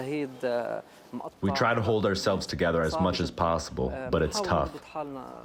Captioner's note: through translator